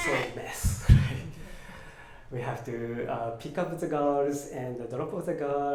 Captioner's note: laughs